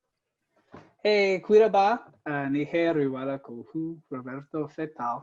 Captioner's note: speaking foreign language